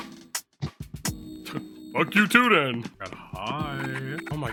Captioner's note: laughs